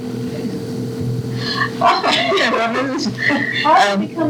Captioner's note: laughter